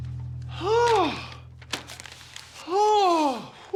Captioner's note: sighs heavily